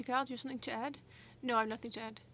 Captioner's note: speaking French